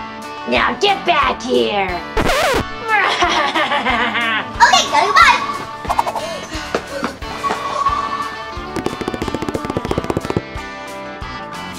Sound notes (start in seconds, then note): 0.0 country music plays; 2.9 laughs; 6.0 gasping; 8.6 quick footsteps